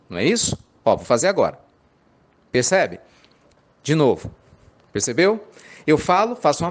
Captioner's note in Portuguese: pausa